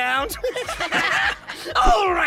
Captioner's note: evil giggles